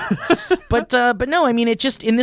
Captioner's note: laughing